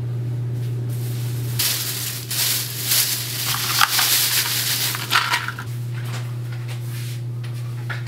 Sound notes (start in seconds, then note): 1.6 cover rustling